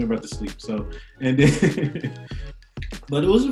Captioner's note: laughs